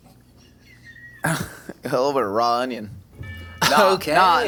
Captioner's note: crew member laughing; chuckles